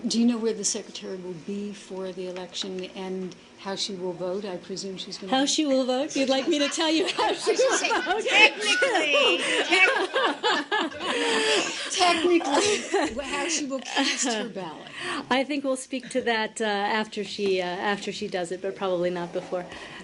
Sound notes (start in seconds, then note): 11.5 laughter